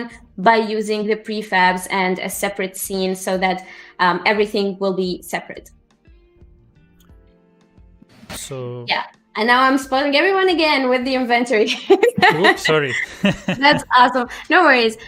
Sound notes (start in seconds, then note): 11.7 laughs